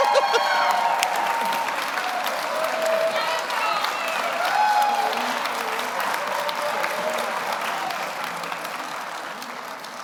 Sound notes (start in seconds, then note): 0.0 audience cheers; 0.0 audience applauds